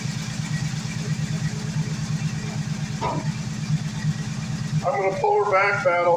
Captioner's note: engine idling